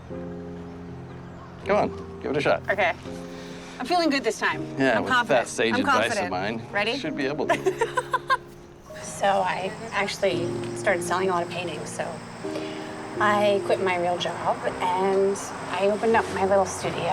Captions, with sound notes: Come on, give it a shot. - Okay. I'm feeling good this time. I'm confident. - Yeah, that sage advice of mine, should be able to. (laughs) - So I actually started selling a lot of paintings, so I quit my real job and I opened up my little studio.